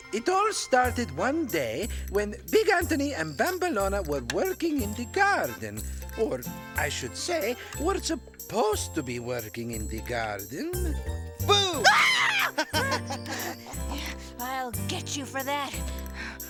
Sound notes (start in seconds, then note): 11.5 boy laughing; 11.6 girl screaming